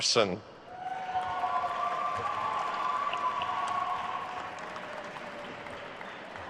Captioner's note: attendees cheering and applauding